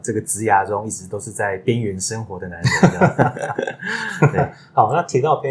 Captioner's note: laughs